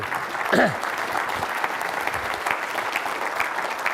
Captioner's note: clappping